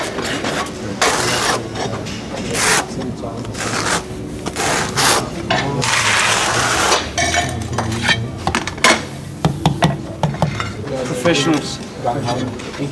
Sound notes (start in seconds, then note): 3.7 sounds of students laying tiles and interacting